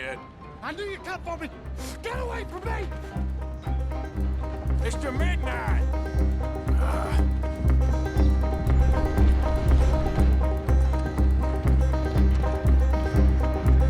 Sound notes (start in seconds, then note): 6.3 sighs, puts a chair in it's place and goes after the gunslinger